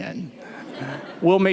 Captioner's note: laughter